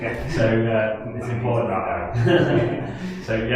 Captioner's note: laughs